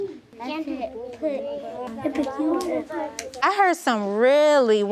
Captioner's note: group murmuring